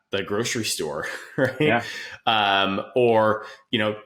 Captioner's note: chuckles